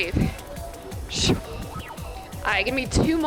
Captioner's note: sound effect